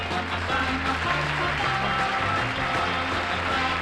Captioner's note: applause